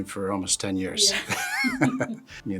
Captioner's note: laughing